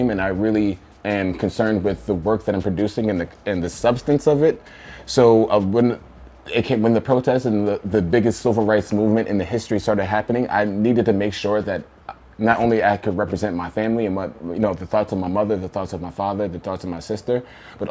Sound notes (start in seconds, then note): none